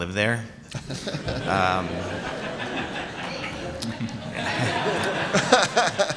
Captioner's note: laughter